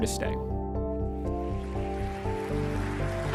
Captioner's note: applause